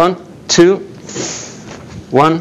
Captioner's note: short sizzle